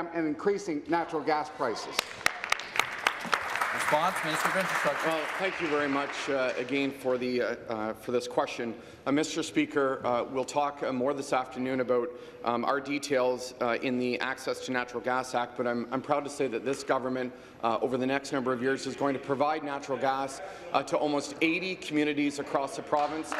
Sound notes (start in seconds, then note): 4.8 applause